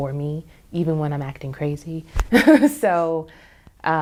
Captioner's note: laughs